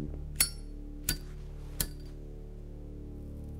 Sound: lighter flicks; ominous music

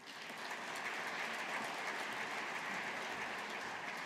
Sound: audience applauding

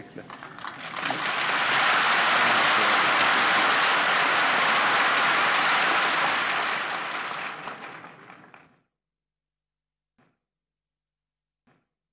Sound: applause

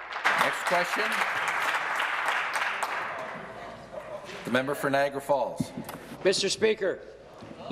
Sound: applause

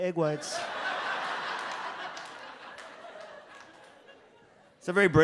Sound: audience laughs

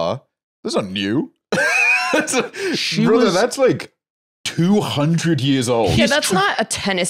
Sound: laughs

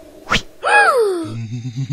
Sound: gasp; laughing

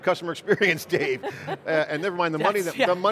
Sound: laughing

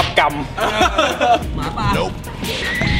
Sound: laughs

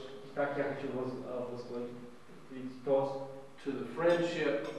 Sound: non-english speech

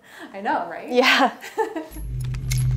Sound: laughing; gentle music

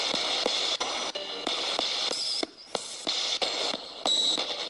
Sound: ghost box hissing

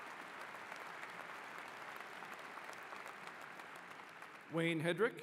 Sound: applause

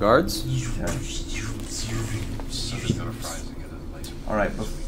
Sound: lightsaber noises

